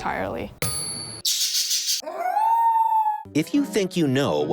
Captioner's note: sound effects